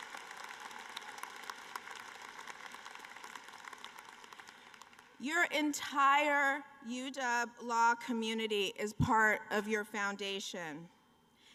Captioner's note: applause